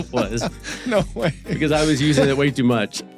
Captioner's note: laughs